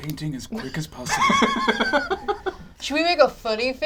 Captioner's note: laughs